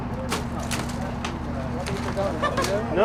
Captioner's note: woman laughing